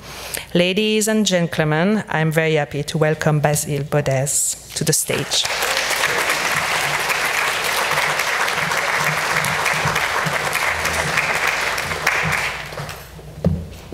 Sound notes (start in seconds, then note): 6.7 audience applauding